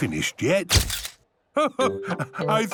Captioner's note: camera clicks